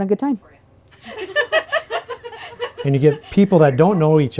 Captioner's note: joyful laughter